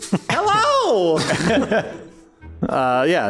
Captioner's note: laughs